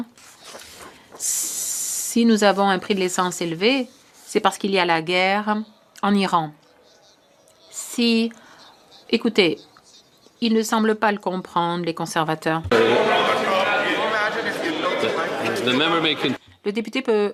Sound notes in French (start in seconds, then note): 2.2 voix de l'interprète